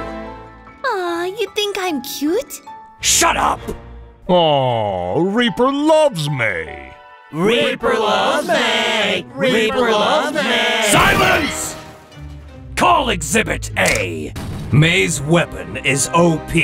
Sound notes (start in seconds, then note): 7.1 chanting; 10.9 shoots